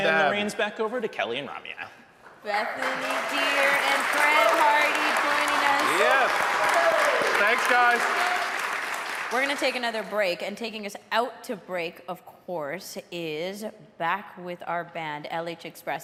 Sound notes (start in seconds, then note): 3.8 audience cheering; 8.0 audience applauding; 8.0 audience cheering